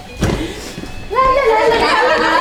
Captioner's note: crowd chattering; locker door slams; group laughing